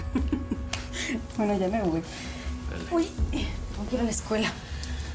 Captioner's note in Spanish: Ella ríe